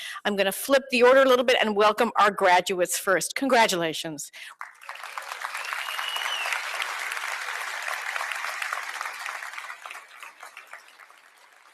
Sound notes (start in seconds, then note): 4.4 applause